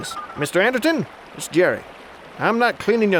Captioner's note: phone dials